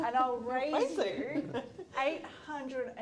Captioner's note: laughter